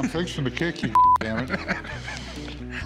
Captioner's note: laughter